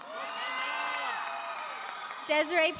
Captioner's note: audience cheering